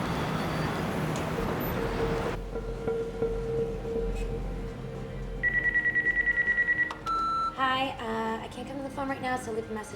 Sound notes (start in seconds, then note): 5.4 phone ringing